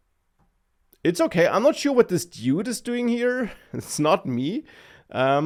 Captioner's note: laughs